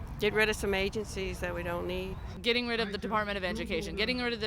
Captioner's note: none